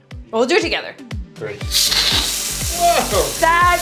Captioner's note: water hissing